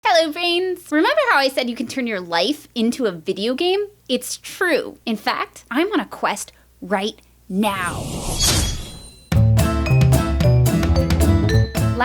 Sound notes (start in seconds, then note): 8.2 medieval sword sounds; 9.3 intro Music